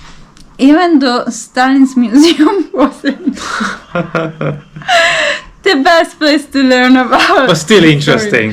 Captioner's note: laughing